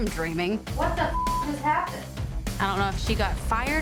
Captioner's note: beep